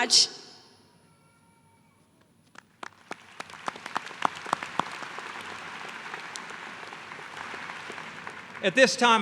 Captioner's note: applause